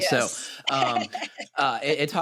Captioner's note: laughs